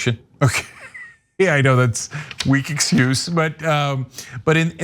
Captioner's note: laugh